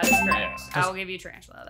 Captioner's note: bell dings